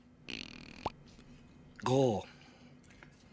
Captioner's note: makes "pop" sound